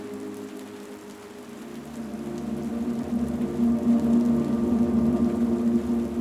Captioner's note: mysterious music continues; rain continues pattering